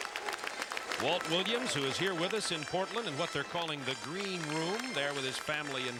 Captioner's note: applause